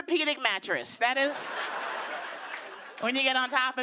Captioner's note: laughter